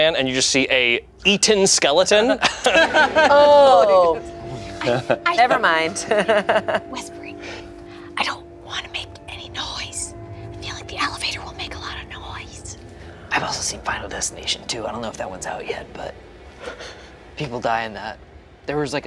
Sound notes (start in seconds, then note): 4.8 laughs